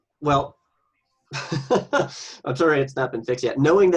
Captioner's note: laughs